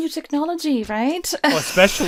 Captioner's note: laughter